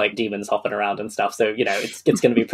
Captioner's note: laughs